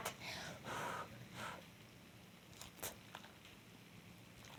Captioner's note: blows air softly